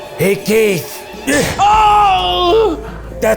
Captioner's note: yells